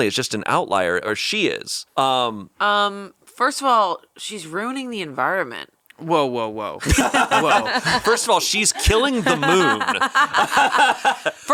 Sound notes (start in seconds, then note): 6.8 both laughing; 10.9 laughs